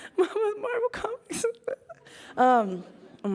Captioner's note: laughs